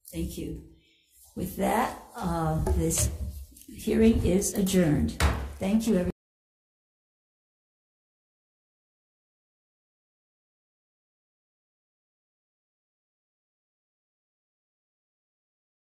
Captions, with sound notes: - Thank you. With that, this hearing is adjourned. (gavel bangs) Thank you everyone.